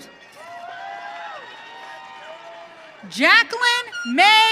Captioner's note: audience cheering